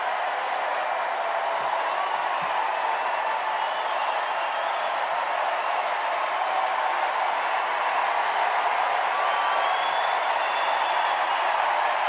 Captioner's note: cheers and applause